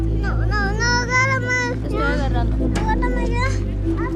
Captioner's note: Spanish